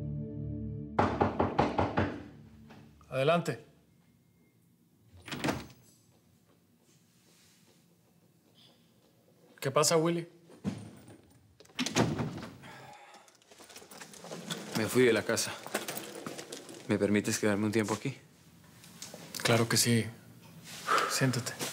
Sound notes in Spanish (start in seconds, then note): 1.0 Toques en la puerta